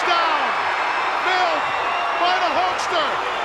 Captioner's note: audience cheering